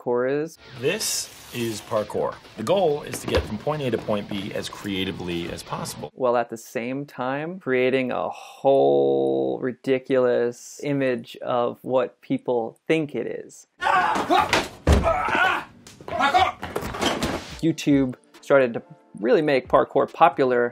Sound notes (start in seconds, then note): 13.9 grunting; 13.9 yelling